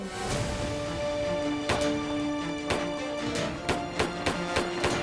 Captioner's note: guns bang